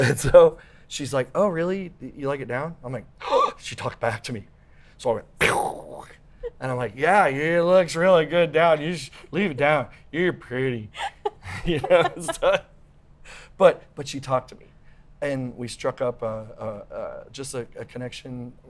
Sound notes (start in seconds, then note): 0.2 laughs; 3.3 gasps; 5.4 pew; 10.9 laughs